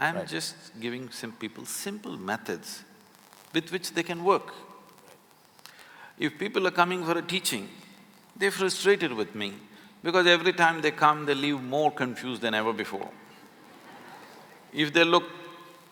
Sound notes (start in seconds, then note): 13.6 few laugh